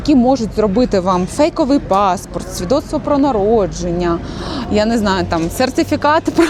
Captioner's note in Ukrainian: сопіння